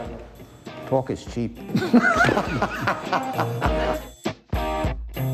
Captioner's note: laughter